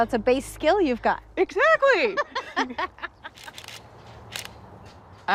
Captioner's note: laughs